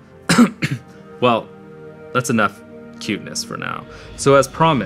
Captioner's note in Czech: kašel